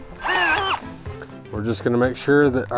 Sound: screwdriver drilling

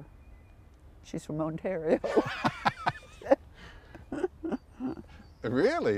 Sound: laughter

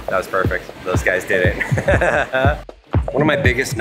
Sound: laughs

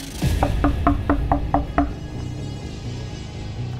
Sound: knocking

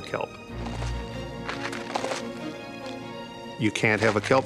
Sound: kelp crunching

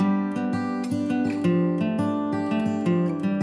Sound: none

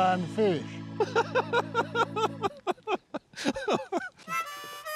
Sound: laughter

